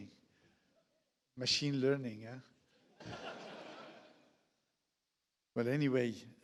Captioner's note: audience laughs